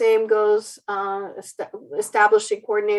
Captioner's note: stuttered speech